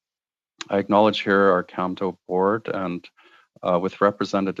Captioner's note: speaking French